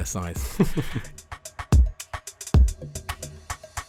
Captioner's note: voiceover